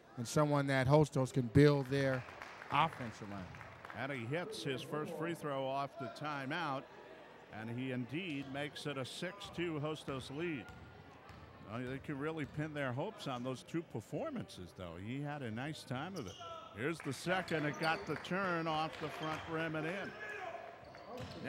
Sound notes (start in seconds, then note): 1.8 clapping; 10.8 ball pounding; 20.4 yelling